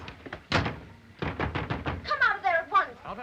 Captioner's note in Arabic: يُصفق الباب بقوة; يُطرق على الباب بقوة